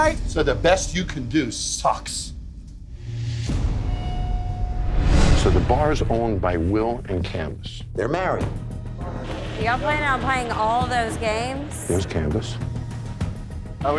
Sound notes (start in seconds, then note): 0.0 beeping; 4.6 air whooshing